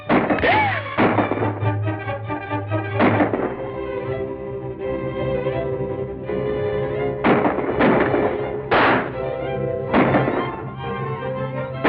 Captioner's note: gunshots firing